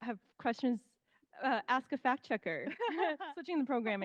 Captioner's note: laughing